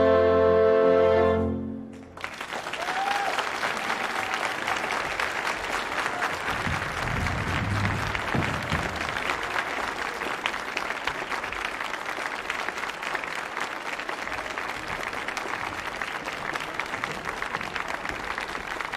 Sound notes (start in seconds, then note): 1.9 audience applauding